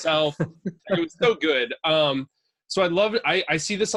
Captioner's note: laughing